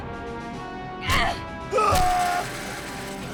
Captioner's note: Clarke screams; Riley grunts; gate rattles